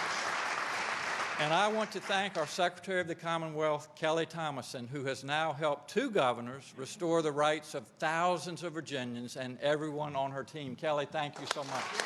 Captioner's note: applause